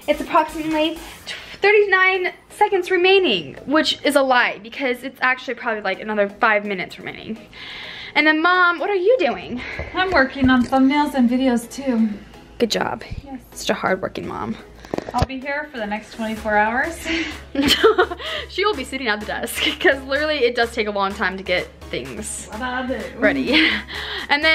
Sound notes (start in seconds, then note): 17.1 laughs